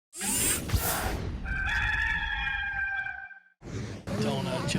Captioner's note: rooster sounds